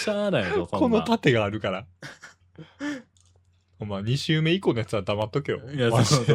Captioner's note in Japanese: 笑い